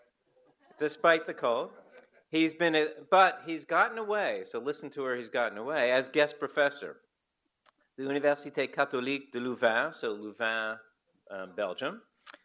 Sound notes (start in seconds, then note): 8.7 foreign language